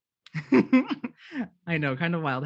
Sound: laughs

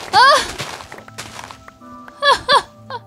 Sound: laughing

